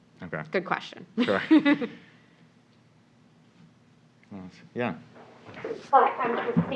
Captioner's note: laugh